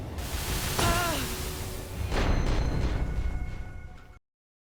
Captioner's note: character moaning